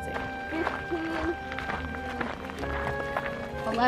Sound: footsteps

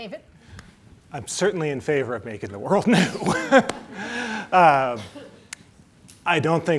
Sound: laughs

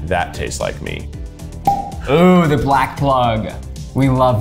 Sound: bottle pops

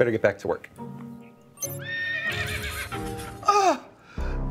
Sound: horse whinnying

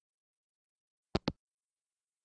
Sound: hangup

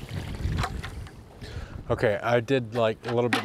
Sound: water sloshing; wind whooshing; bucket clunking

